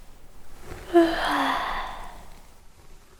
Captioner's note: yawn